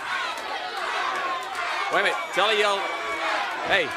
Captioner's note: crowd cheering; crowd chatter